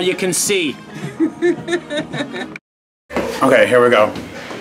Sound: laughing

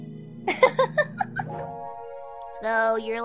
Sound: laughing

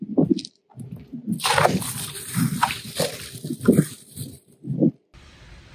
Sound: water splashing against the skylight and draining off

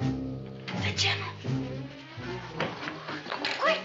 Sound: whispers

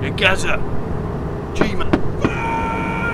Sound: screaming from inside the house

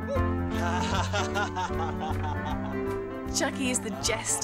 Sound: laughs

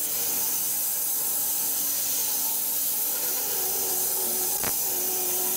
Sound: saw blade continues humming

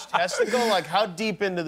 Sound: laughter

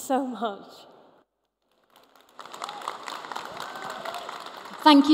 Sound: applause

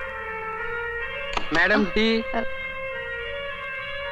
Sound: door open

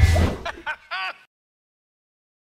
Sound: laughing

